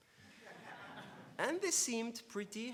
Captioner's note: laughs